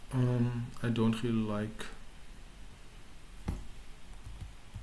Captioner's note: typing